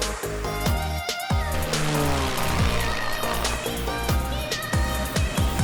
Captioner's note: soft music; plane whizzing; soft music